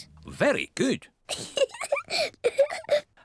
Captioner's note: laughs